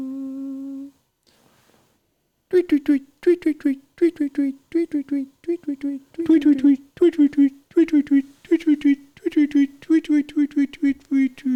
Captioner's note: humming